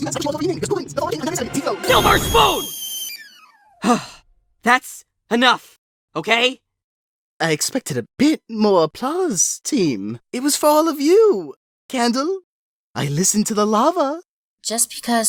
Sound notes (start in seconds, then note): 3.8 sigh